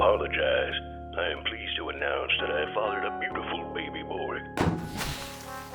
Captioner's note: Boss over intercom; trumpet fanfare